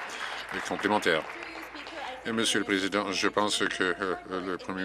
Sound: applause

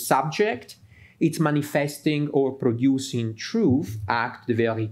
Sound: speaks in French

